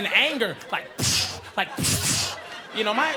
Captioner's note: imitates gunfire